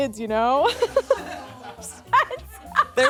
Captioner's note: laughs